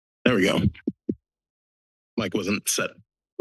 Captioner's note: silence; mic tap